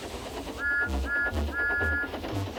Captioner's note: toot toot toot